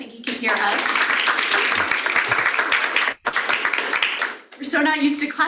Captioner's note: applause